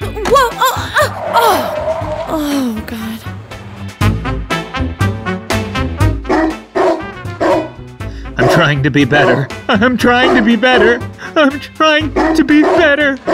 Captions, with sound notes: (barking) I'm trying to be better. I'm trying to be better!